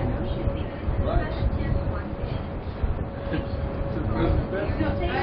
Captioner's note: Gülüyor